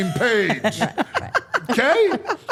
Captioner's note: Steph laughing